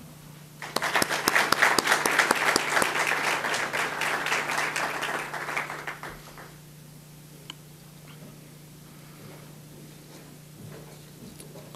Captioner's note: audience applause